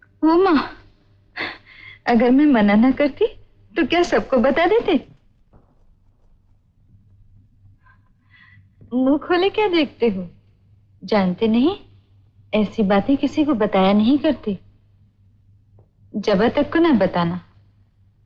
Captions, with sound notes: Oh God. (Chuckles) Would you have told everyone if I had not forbidden you? Why are you so perplexed? Don't you know such things are not talked about. Do not even tell Jaba.